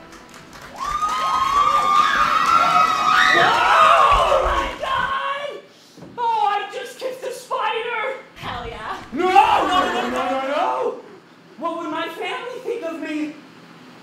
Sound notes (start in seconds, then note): 0.0 audience cheering